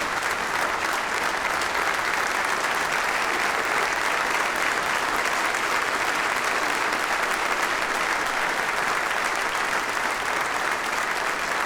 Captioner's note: applause